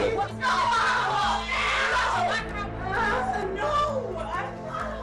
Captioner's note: screaming